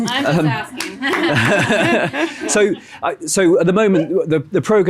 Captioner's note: laughing